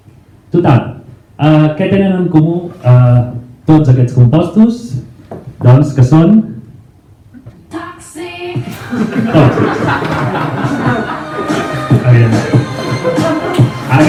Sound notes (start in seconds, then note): 8.6 laughs